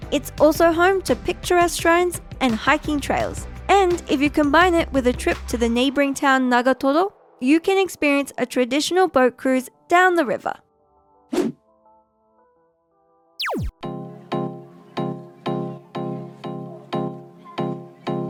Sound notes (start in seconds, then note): 11.4 graphic blips; 13.4 bright music